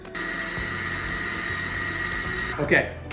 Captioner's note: food processor runs